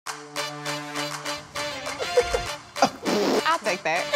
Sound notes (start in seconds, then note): 2.0 laughter